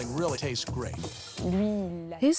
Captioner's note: non-english speech